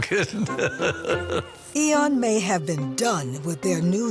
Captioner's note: chuckles